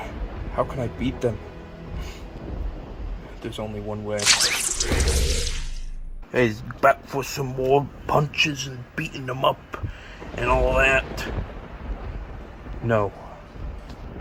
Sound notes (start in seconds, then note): 4.8 thud